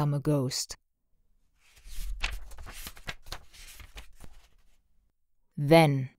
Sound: pageturning sound

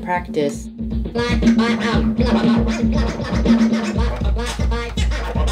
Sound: fast record scratching

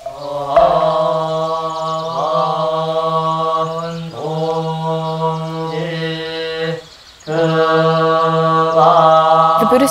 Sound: chanting

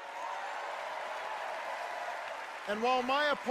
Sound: cheers and applause

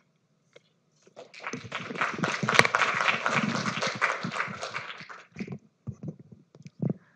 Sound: applause

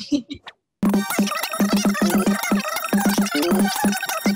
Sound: sped-up audio

